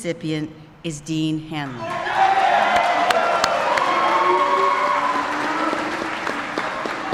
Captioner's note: applause